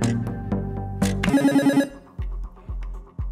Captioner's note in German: Buzzer